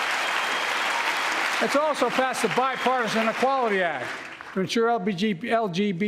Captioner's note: applause